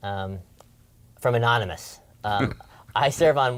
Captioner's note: laugh